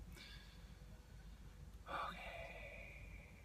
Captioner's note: whispers